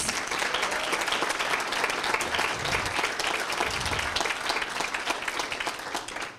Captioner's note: applause and screams